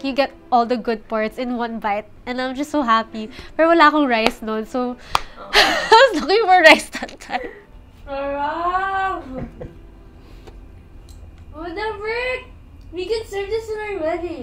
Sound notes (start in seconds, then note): 5.2 sighs